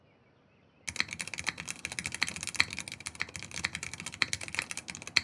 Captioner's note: typing continues